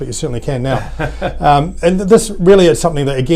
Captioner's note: laughing